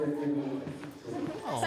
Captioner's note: speaking Japanese